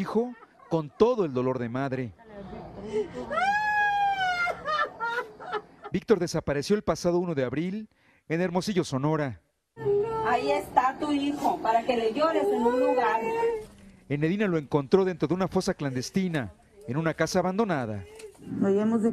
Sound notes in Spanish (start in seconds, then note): 3.1 gritos